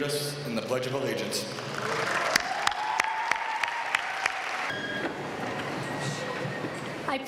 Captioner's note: applause